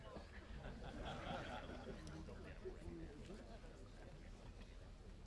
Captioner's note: laughter